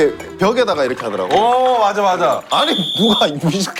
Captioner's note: glug Glug Glug